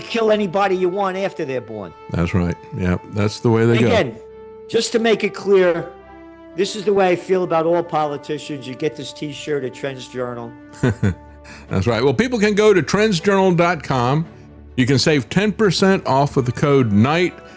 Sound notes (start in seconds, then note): 10.8 laughs